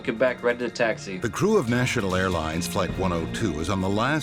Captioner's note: voiceover